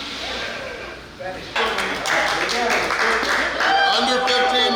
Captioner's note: cheering & Clapping